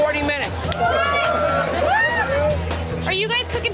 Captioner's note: patrons cheering